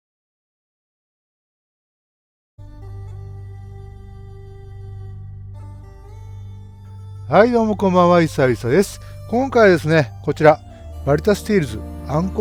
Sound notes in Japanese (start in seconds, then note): none